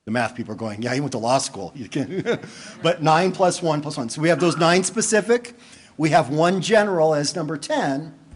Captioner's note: laughter